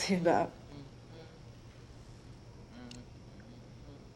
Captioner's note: french humming